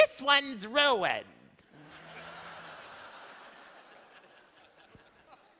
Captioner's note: laughter